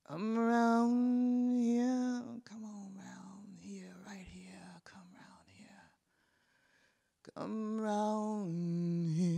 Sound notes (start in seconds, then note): 0.2 singing; 2.6 whispered; 7.3 singing